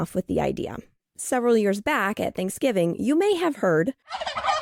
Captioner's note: SFX- turkey gobble